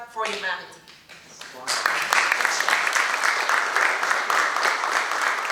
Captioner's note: applause